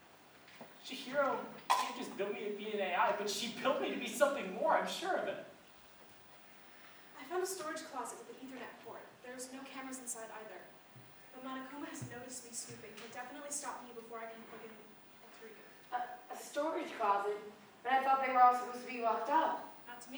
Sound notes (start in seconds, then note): none